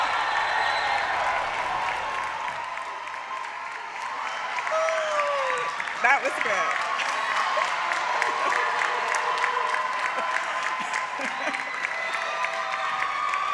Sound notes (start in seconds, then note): 0.0 applause; 5.0 cheering